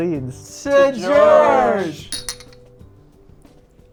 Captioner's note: glasses clink